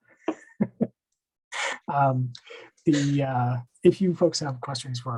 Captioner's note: laugh